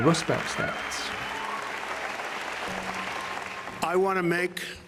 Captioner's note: audience cheering